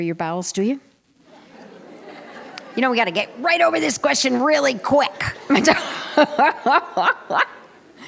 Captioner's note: laughter